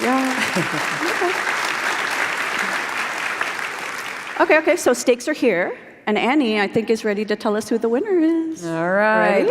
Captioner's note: applause